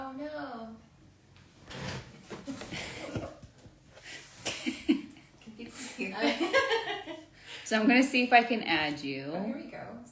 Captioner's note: laughs